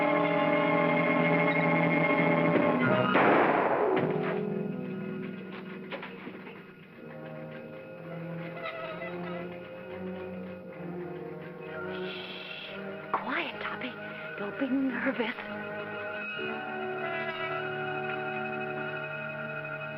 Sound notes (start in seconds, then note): 2.5 trap door shuts; 3.0 gunshot; 6.9 ominous music; 16.1 ominous whimsical music